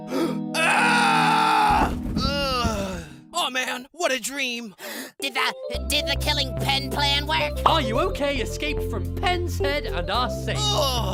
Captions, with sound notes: [GASP] AHHHH! [YAWN] Aw man! What a dream! [GASP] Did the--did the killing Pen plan work?! ARE YOU OKAY escaped from Pen's head, and are safe!